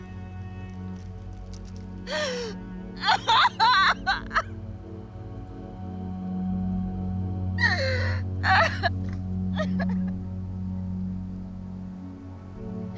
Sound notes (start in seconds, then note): 2.9 Edith sobbing